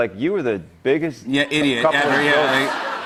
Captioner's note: laughter